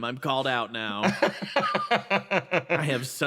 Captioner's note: laugh